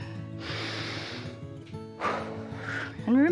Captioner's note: inhales and exhales